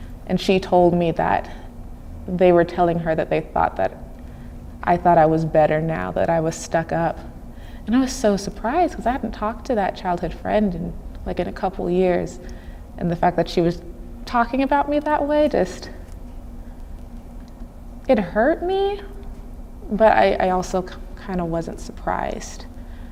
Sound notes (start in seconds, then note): none